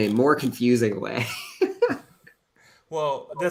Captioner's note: laughs